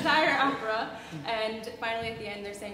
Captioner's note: laughs